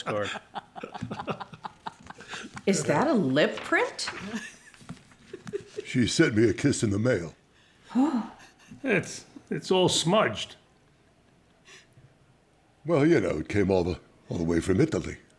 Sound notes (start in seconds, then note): 0.0 laughter; 7.9 gasps